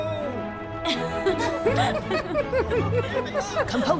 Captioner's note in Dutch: allebei lachen